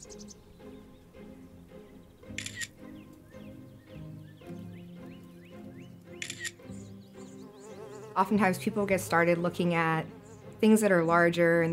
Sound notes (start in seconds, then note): 2.3 shutter clicks; 6.2 shutter clicks; 8.1 wings buzz